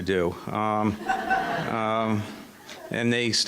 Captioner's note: audience laughing